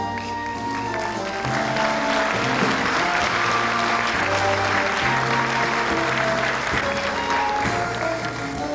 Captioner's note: applause